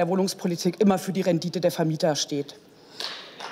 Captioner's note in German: Beifall